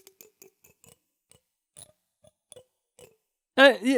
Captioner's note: comb clicks